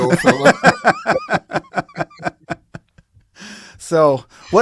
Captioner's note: both laughing